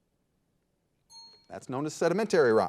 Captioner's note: signal dings